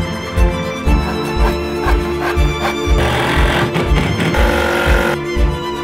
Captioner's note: various tool sounds